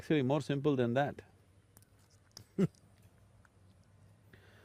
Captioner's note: laughs